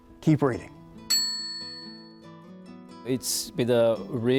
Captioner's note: bell dings